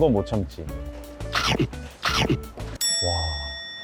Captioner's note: munch munch